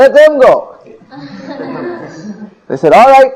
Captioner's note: devotees laughing